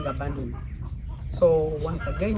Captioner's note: chickens clucking